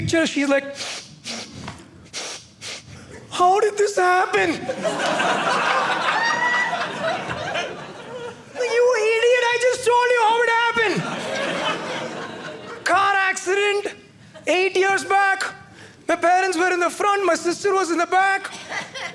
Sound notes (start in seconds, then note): 2.0 sniffling; 4.6 audience laughing